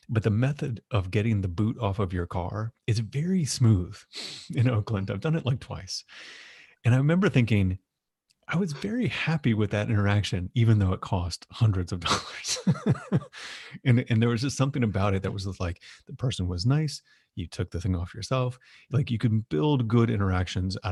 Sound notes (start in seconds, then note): 12.2 laughs